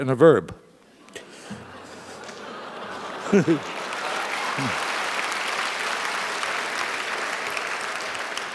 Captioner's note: applause; laugh